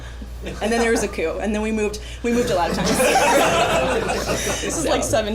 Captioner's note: laughter